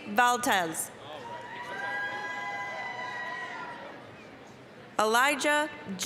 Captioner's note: applause, cheering